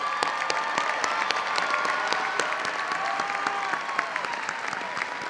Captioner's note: audience cheering and applauding